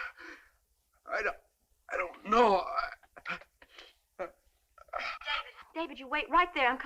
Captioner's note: groaning